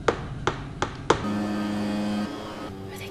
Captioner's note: buzz